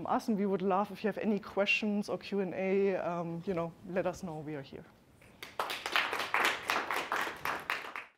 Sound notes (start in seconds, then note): 5.2 audience clapping